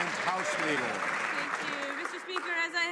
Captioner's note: some Applause